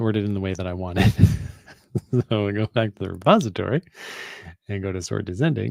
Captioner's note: laughs